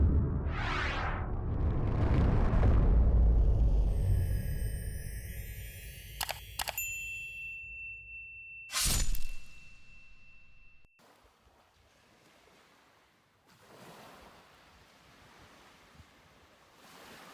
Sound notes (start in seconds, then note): 11.0 waves